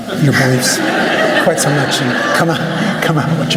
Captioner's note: laughter